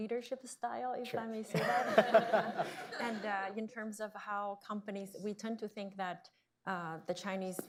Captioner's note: laughter